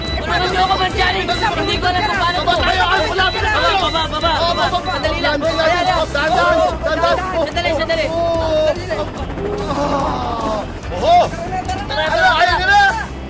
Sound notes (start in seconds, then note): 9.3 Johnny sighs